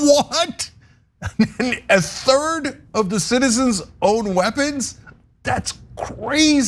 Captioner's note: laugh